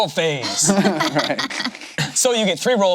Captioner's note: laughs